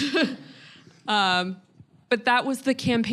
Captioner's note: laughing